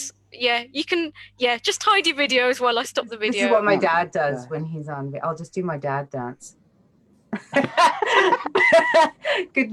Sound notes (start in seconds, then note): 7.4 laughs